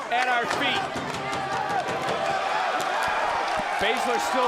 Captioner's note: audience exclaiming